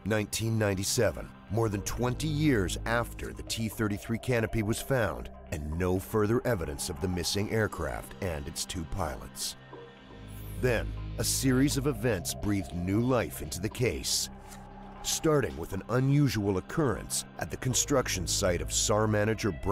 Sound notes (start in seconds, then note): 10.1 voiceover